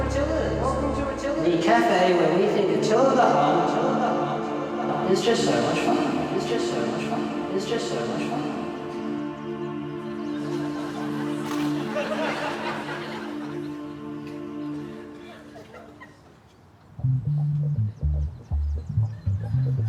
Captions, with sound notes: Welcome to Attila's. [VOICE ECHOES] The cafe where we think Attila the Hun is just so much fun. [VOICE ECHOES]